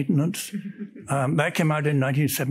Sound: woman chuckles

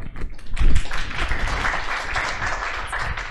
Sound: applause

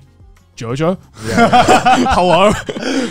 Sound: everyone laughs

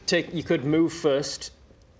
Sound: none

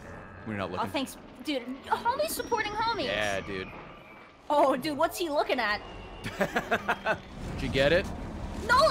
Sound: laughs

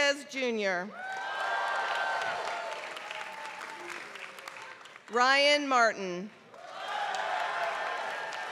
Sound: applause

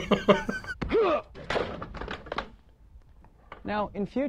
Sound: chuckles; man in chair grunts; chair clatters

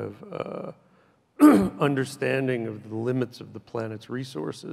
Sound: coughs loudly

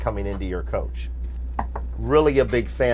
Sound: knocking

